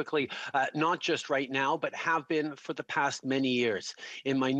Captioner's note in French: voix de l'interprète